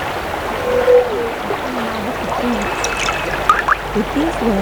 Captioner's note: running water